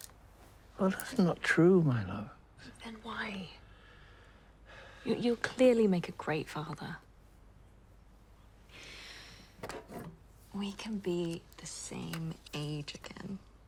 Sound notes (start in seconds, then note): none